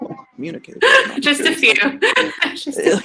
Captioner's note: laughs